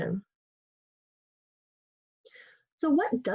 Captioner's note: pause